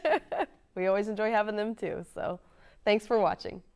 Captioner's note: chuckles